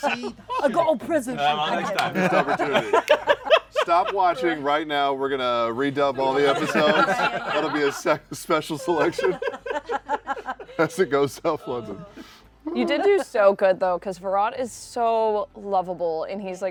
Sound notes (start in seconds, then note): 8.7 laughter